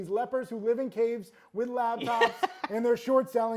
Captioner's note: laughs